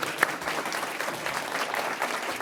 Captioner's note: applause